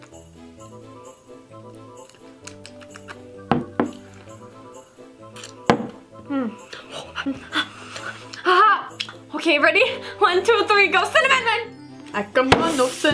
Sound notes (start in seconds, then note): 1.5 holiday music; 5.3 smacking their lips